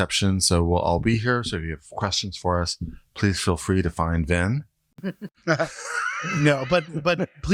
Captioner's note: chuckle